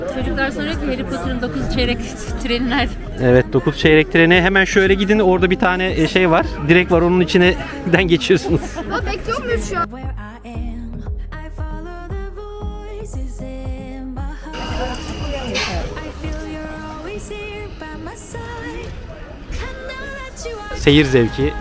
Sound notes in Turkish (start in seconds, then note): 8.1 kahkaha